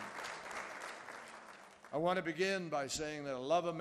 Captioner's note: applause